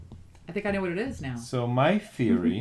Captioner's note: laughs